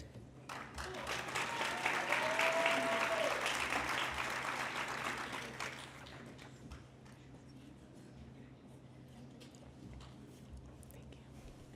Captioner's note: applause